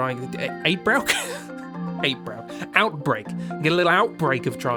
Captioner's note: laughs